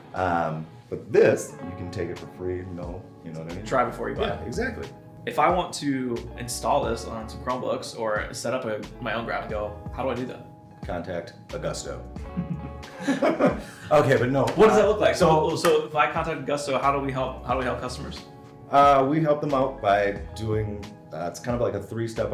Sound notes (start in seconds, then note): 12.2 chuckling